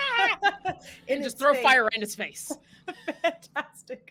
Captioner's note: laughing; laughing